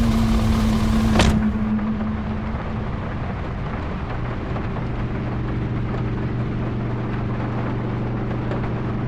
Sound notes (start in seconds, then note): 0.1 door slams; 3.3 motor hums to life